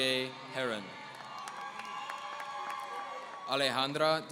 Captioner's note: audience cheering